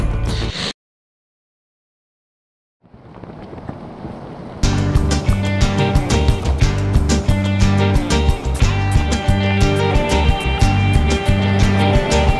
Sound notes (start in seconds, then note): 0.7 static sound; 4.6 upbeat Latin music